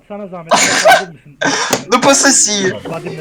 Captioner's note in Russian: Смех